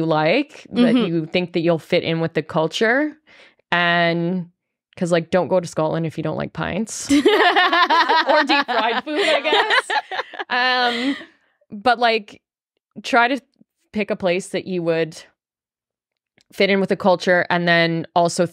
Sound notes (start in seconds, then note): 7.1 group laughing